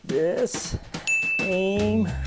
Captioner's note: ding